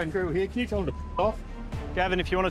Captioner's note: beep